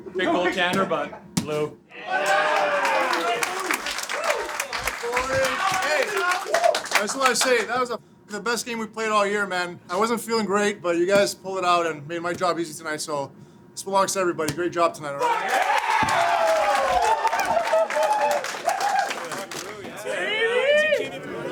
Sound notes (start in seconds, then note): 2.2 clapping; 15.4 clapping